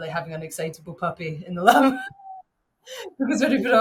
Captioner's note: chuckles